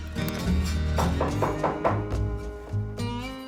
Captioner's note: knocking on door